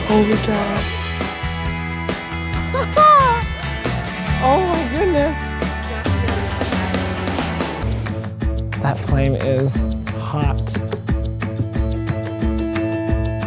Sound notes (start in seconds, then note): 2.7 laughs; 6.2 flame hissing